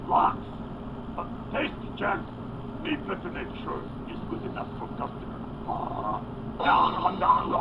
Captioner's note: laughs; gobbling noisily